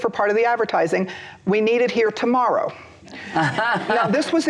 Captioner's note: laughter